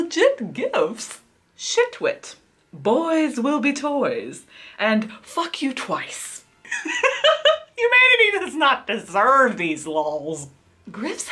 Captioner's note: laughs